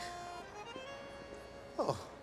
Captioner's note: chuckles